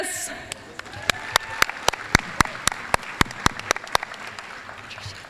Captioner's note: applause